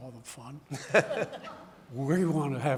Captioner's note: audience laughing